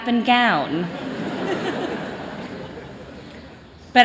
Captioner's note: chuckling